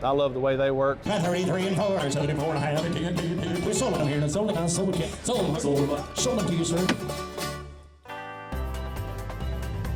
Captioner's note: rapid Auctioneer chant